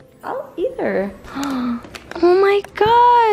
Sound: gasps

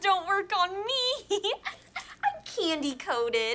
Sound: giggling

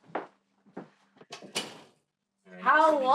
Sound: door closes

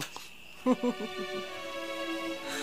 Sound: chuckles

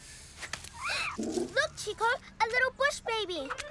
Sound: chitters softly

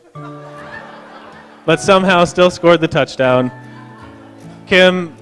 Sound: laughter

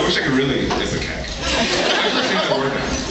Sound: laughs

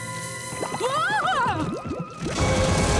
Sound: shrieking

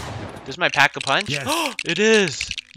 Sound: gasp

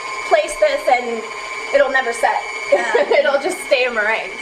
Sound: laughing

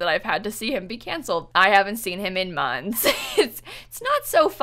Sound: laughs

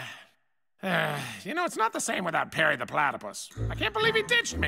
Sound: sighs

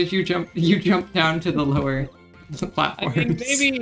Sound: laughs

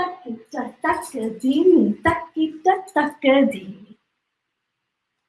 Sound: counts in foreign language

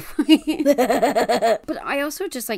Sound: laughs

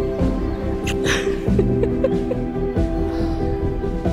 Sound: kissing

